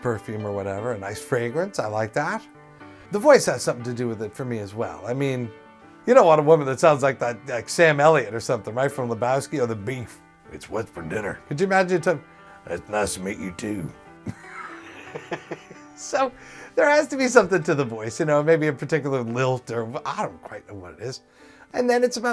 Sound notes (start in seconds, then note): 9.5 in Sam Elliott's voice; 14.2 laughs